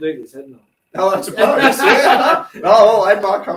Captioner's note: laughing